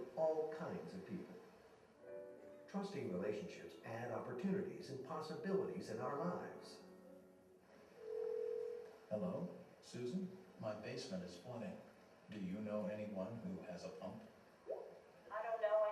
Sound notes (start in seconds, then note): 7.9 phone ringing